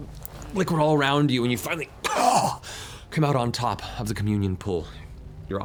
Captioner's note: coughs